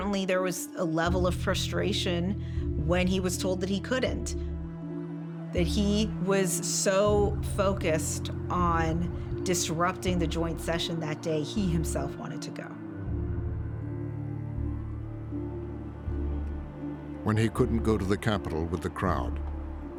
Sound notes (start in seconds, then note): 15.3 siren blaring